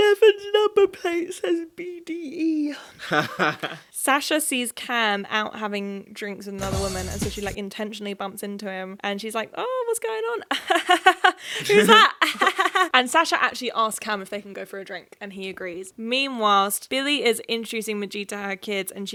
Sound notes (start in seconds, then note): 3.0 chuckling; 11.5 chuckling